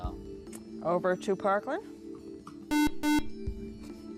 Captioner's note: buzzer